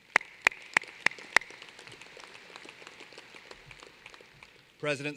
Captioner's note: applause